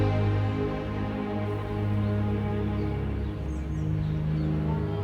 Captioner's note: birds chirping